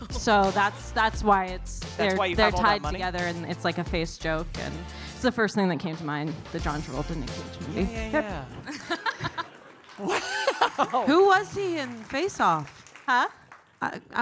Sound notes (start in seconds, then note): 8.2 audience applauding; 9.6 audience cheering